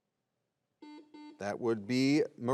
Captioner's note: buzzer beeps